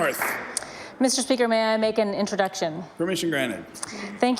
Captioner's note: applause